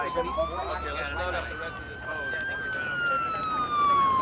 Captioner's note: indistinct chatter